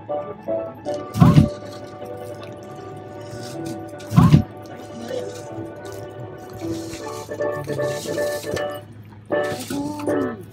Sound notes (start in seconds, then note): 0.7 monkey crashes to floor; 4.0 monkey crashes to the floor; 7.2 upbeat music